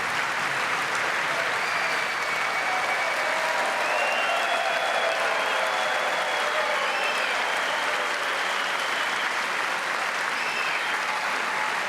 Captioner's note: applause